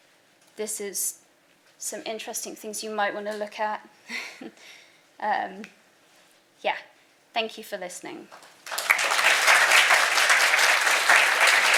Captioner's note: applause